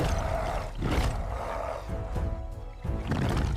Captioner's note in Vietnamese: rên rỉ